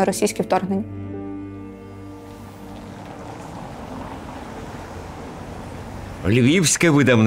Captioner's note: A street noise